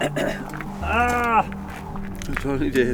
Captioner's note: groans in pain